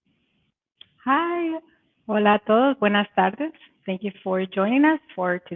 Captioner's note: speaking Spanish